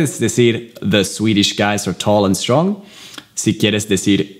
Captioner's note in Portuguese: Inglês